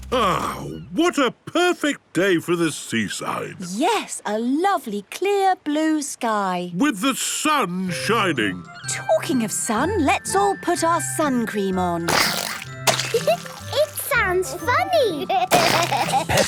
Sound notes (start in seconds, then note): 12.0 squirting; 15.4 giggling; 15.6 George laughing